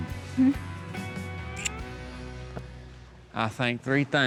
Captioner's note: smooch